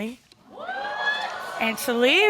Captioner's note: audience exclaiming